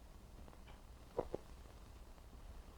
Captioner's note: none